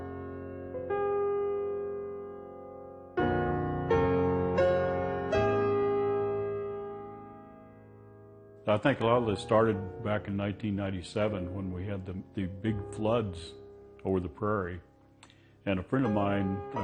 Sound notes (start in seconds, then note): 1.8 soft piano music plays; 10.1 voiceover